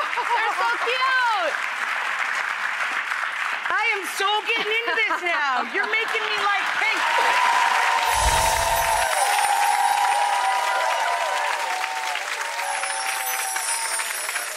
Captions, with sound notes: Oh ho ho ho! They're so cute! I am so gettin' into this now. You're making me like pink! (audience whoops and claps)